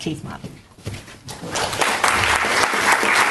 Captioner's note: audience applauds